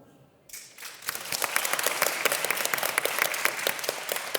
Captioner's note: audience applause